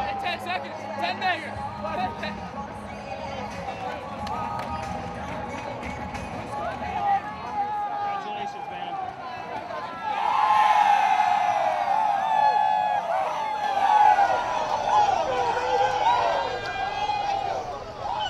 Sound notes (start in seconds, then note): 4.8 cheering